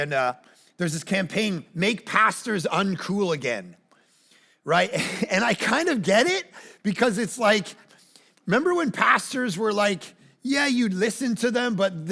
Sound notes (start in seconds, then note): 4.9 chuckles